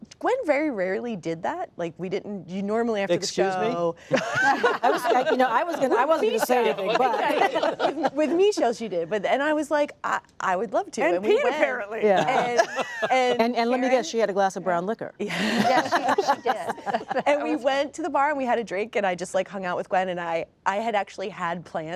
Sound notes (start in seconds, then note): 4.1 laughter; 12.0 laughter